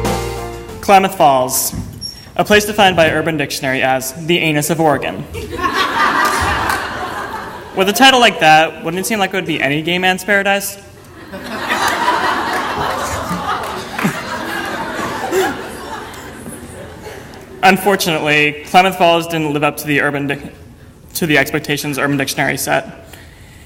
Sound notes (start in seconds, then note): 5.3 audience laughter; 15.2 audience laughter; 17.0 laughter